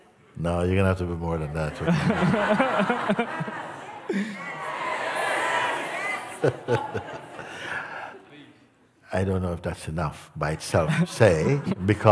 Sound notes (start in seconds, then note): 1.8 Lachen; 6.4 Mooji lacht